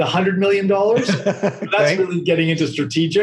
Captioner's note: laughing